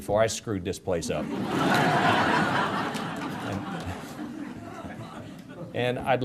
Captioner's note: audience laughter